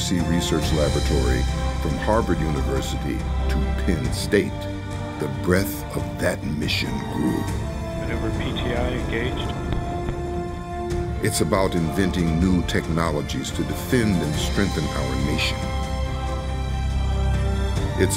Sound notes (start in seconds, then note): 8.2 man on Radio; 11.2 voiceover